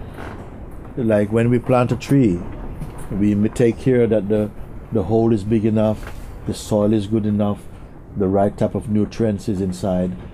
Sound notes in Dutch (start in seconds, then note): none